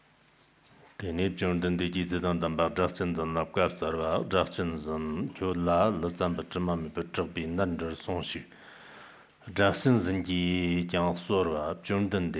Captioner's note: giving oral transmission in Tibetan